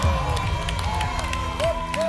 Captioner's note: applause and cheering